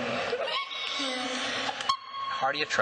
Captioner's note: girls laughing